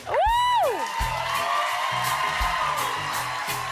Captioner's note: cheers and applause